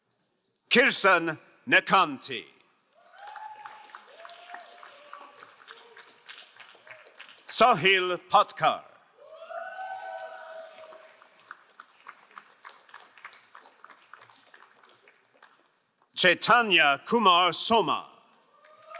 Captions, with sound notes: Kirstan Netanti. (crowd cheering and applauding) Sahil Patkar. (crowd cheering and applauding) Shetanya Kumar Soma.